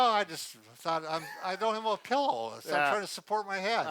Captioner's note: chuckles